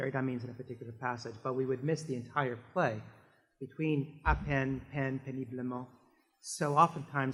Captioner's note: french